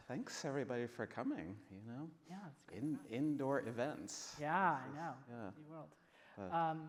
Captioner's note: none